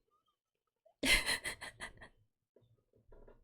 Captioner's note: laughs